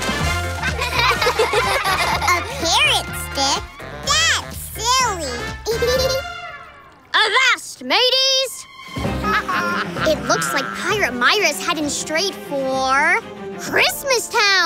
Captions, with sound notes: [laughing] -A parrot stick? -That's silly! [giggling] Avast mateys! It looks like a Pirate Myra's heading straight for... Christmas Town!